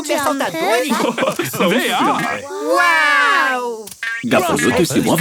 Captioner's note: laugh